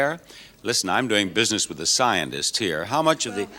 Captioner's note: none